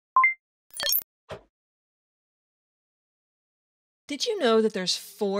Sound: electronic beeping

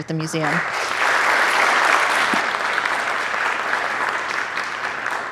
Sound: audience applauding

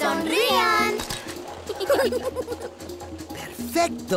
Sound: laughing

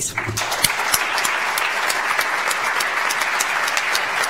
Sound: audience applauds

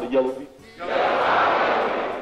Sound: crowd

